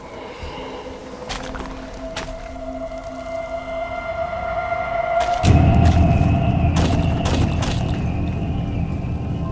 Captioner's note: squishy sounding footsteps